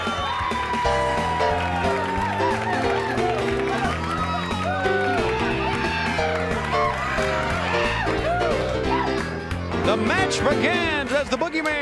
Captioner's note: crowd cheering